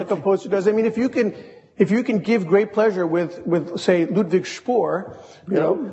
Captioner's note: speaks a foreign language